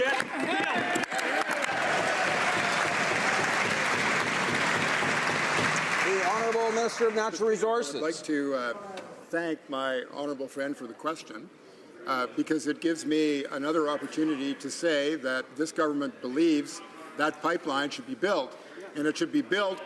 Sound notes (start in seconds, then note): 4.9 some Applause